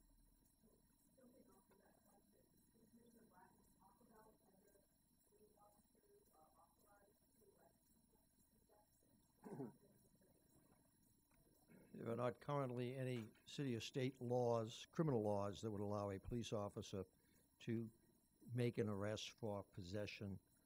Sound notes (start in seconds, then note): 9.4 clears throat